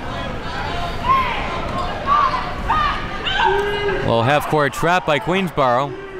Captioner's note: players talking and yelling